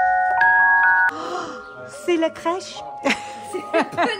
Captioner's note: woman speaking in foreign language; women laughing